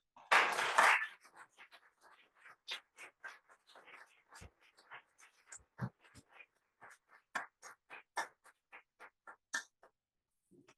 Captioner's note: applause